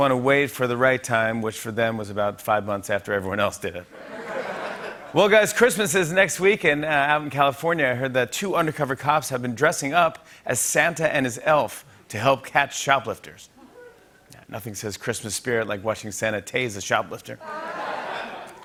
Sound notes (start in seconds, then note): 3.9 laughter